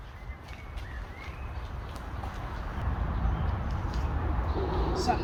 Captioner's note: birds chirping